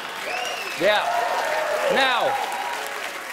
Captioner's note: applause